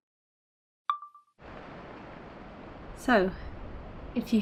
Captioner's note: chime of a phone recorder turning on; wind rushing